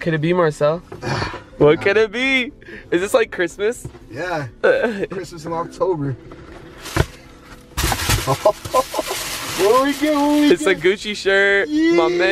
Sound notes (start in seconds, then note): 8.2 chuckles